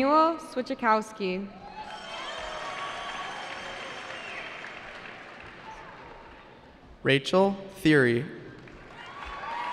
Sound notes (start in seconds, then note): 1.5 cheering; 8.8 cheering